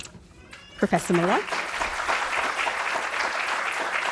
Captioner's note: applause